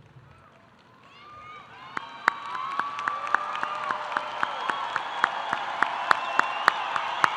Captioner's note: audience applauding; audience cheering